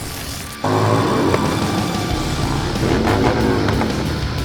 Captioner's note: motorbike engine revving